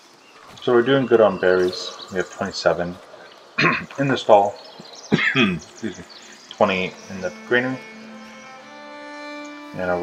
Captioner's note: cough